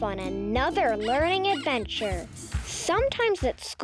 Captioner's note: upbeat music; pig squeaking